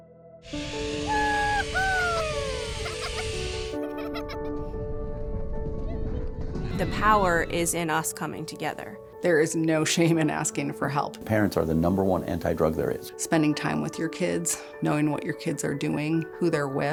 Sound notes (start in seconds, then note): 0.6 bright music; 1.1 children laugh